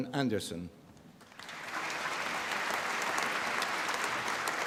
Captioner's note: applause